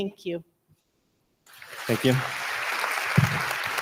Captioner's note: audience applauding